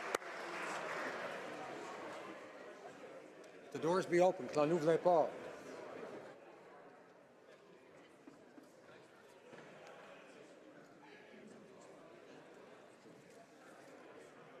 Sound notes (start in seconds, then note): 0.0 applause; 3.2 speaking French